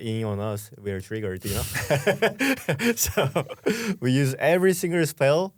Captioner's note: laughs